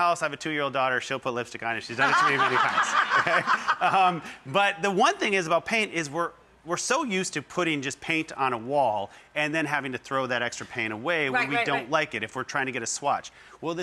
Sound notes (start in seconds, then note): 2.0 laughing